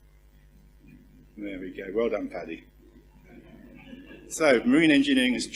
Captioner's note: laugh